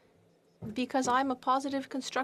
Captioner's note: speaking French